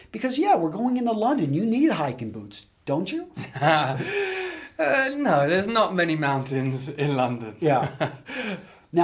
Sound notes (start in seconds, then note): 3.4 laughs